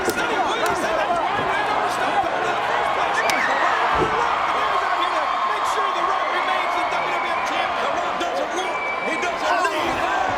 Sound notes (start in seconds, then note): 3.4 audience cheering; 3.4 hand slaps